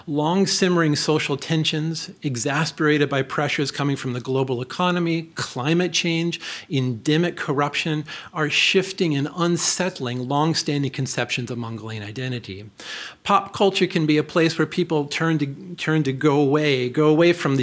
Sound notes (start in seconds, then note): none